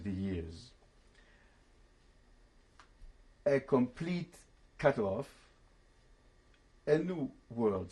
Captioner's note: pauses for 3 seconds